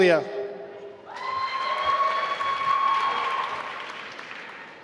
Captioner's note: applause